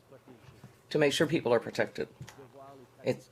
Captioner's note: speaking French